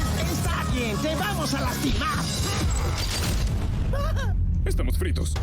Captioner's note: upbeat music; speaking in Spanish